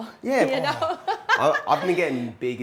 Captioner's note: chuckles